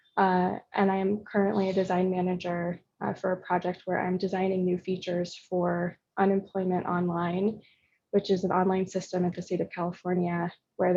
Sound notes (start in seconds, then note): none